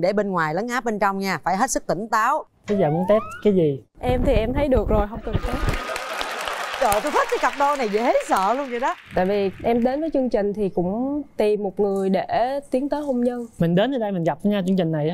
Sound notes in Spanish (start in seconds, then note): 5.3 Aplaudir